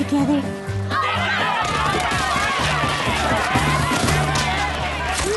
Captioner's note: screaming